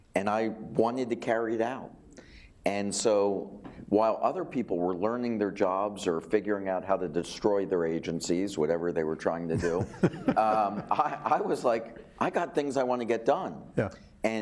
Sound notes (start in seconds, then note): 9.5 laughing